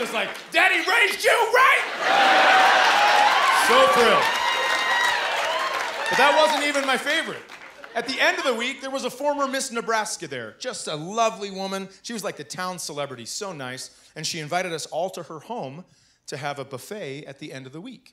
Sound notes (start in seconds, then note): 2.0 cheering and applause